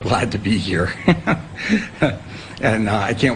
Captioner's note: chuckles